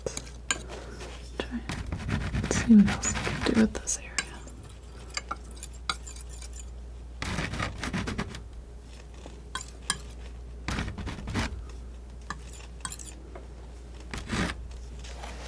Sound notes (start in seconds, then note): 0.0 scratching; 4.3 scratching; 7.2 scratching